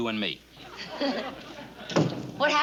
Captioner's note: giggles